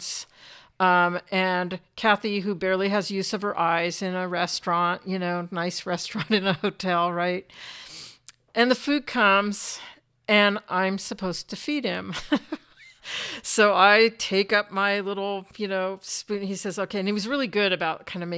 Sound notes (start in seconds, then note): 12.1 chuckles